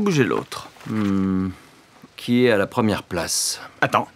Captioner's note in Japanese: ページをめくる音